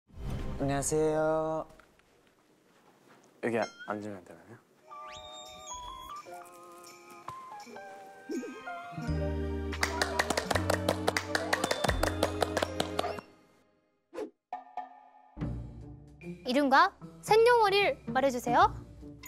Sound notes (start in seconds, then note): 9.7 suddenly claps?